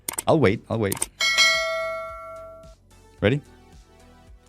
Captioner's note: bell ringing